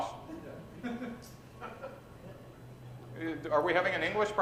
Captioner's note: chuckles